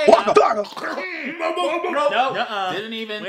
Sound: choking noises

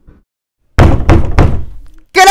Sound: bang

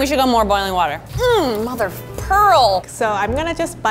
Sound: groans

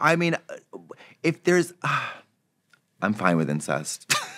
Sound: Katya sighs; giggles

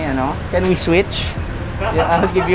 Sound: laughing

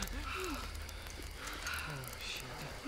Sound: panic breathing subsides

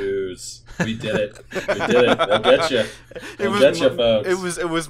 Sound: laughter

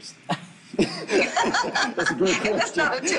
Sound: group laughing

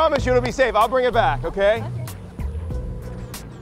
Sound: necklace owner laughs

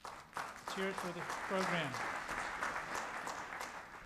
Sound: audience applause

